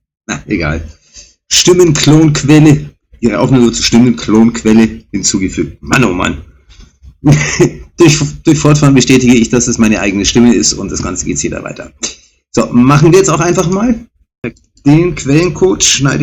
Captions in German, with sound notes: Na egal, Stimmenklonquelle. Ihre Aufnahme zu Stimmenklonquelle hinzugefügt. Mann, oh Mann. [gelächter] Durch durch Fortfahren bestätige ich, dass es meine eigene Stimme ist und das ganze geht's hier weiter. So, machen wir jetzt auch einfach mal den Quellencode schneide